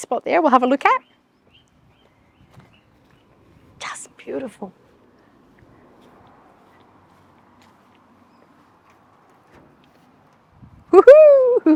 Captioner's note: silence